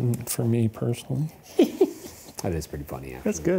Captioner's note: chuckles